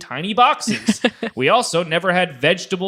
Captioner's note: laughing